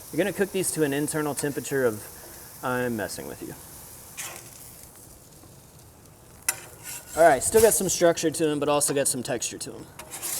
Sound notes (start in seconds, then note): 4.3 spatula scraping